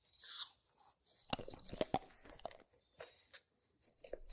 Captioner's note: teeth crunching